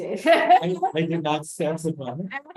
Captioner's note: laughs